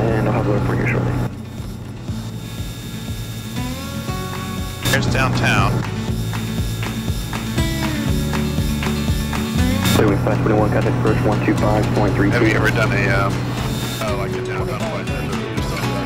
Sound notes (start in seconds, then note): 2.7 country music continues; 2.7 plane engine buzzing; 14.2 country music continues